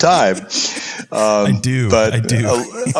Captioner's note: laugh